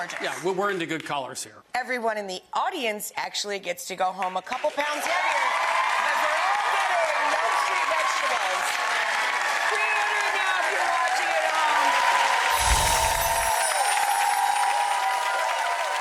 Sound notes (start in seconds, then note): 6.2 audience cheering; 12.3 audience cheering